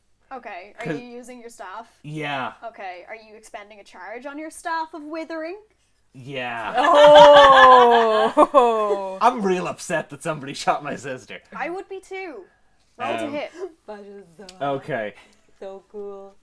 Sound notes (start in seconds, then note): 6.6 laughter